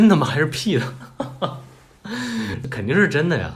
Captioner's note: shocked into laughter